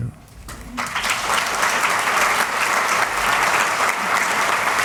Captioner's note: applause